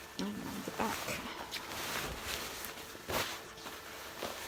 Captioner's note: fabric rustling